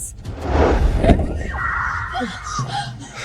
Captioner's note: screaming